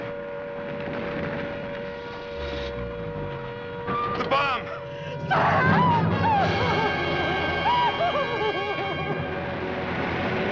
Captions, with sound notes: THE BOMB! SAM! [ SOBBING ]